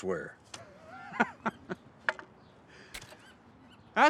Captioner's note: Isaac laughs